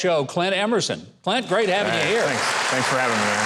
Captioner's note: audience applauds